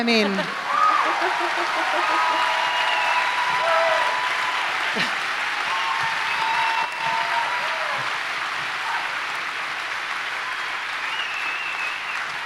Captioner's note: cheers & applause